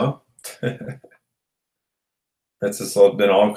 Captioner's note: chuckles